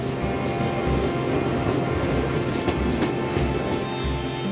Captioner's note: crowd murmuring